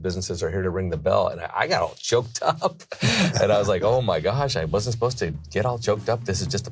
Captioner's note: laughs